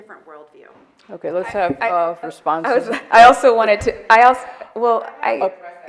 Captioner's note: overlapping chatter